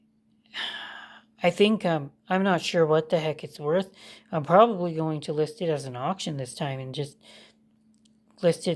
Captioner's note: sighs